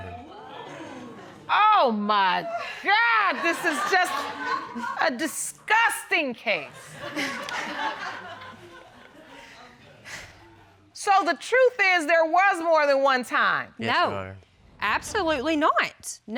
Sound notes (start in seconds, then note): 0.0 audience exclaiming; 6.7 audience laughing